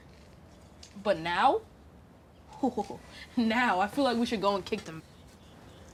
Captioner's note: laughs